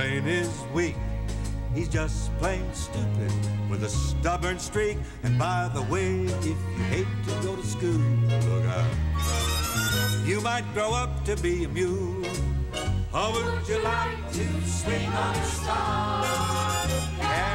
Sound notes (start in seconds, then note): none